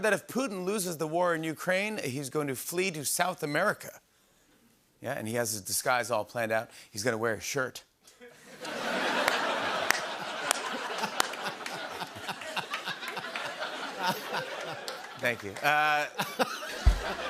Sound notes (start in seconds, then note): 8.2 laughter; 17.1 rim shot